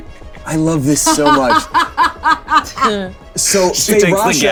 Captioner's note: Delores laughing